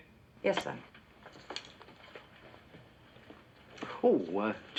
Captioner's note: footsteps